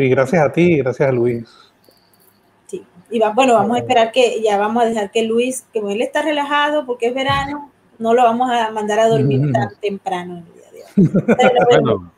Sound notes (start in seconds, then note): 9.1 laughs